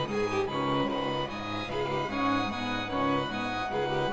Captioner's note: siren blaring